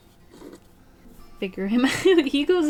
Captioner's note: laughs